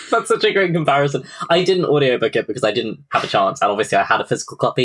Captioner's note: laughs